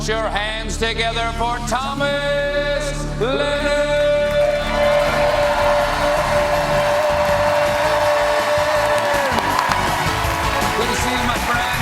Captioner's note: cheers and applause